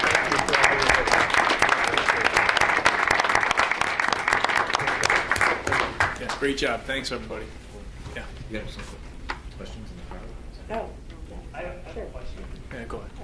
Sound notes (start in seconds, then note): 0.0 audience applauds; 9.9 speaks faintly